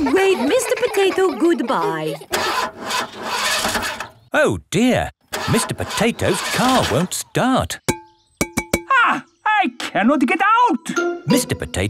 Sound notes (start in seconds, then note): 2.7 engine sputtering; 8.8 knocking on window